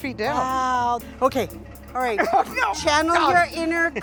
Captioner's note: struggling, laughing